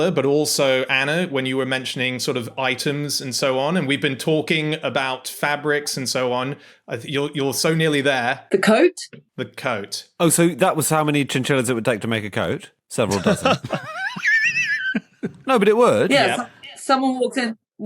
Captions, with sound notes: But also Anna, when you were mentioning sort of items and so on, and we've been talking about fabrics and so on. You're so nearly there. The coat? The coat. Oh, so that was how many chinchillas it would take to make a coat. Several dozen. (laughs) (wheezes) No, but it would. Yep. Yes, someone walks in